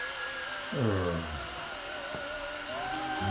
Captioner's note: exasperated sigh